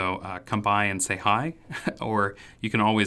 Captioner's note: man chuckles